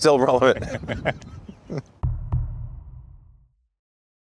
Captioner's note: laughter